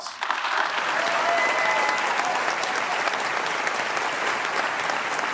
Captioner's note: applause